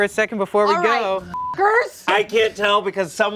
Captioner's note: beep